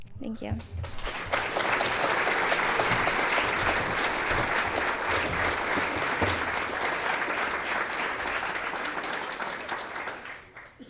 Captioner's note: clapping